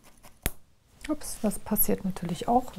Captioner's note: popping crack